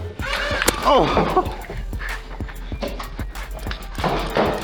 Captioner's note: pained yelp with mild laughter and heavy breathing